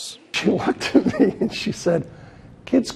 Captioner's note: laughing